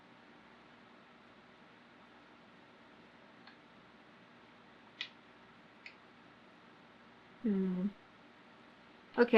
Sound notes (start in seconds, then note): 4.9 clicks tongue